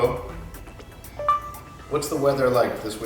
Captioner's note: phone beeps